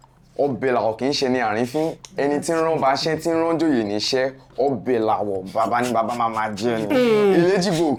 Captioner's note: laughs